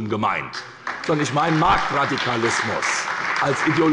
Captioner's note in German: Beifall bei der SPD